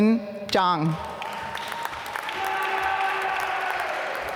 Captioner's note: applause